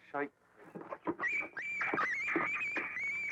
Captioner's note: dog whining